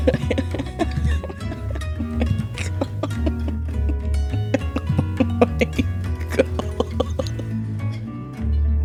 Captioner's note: slow chuckling "i can't" and "oh my god"